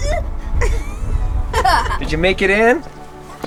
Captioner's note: laughing